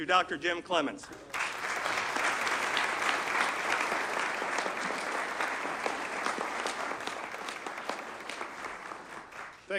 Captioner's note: audience claps